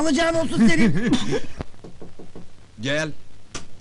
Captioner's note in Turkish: kapi vurulur